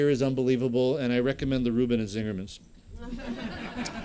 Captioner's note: laughter